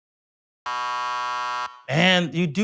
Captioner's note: buzzer